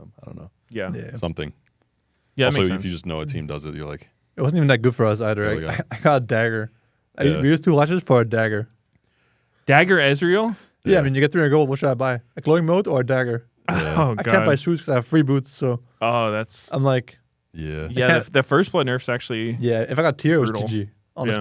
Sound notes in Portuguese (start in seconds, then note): 5.6 risos; 13.7 risos